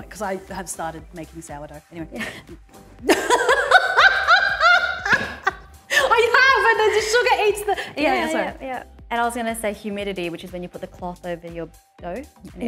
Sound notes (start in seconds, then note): 3.1 laughing